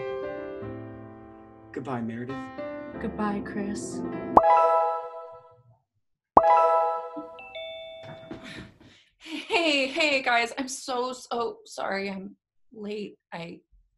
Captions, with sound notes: - Well, goodbye Meredith. - Goodbye, Chris. [popping noise] [popping noise] [doorbell rings] - Hey hey guys, I’m so so sorry I’m late I…